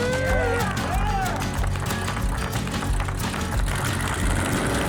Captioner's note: upbeat music; engine revving